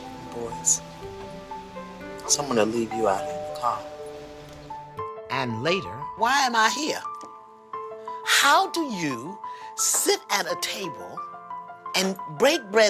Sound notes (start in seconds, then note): 3.1 doorbell rings